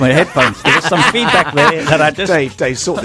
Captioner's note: both laugh